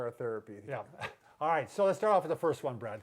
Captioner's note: chuckles